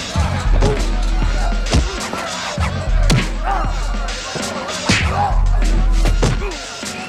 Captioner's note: blows thudding; crowd chattering; fighters grunting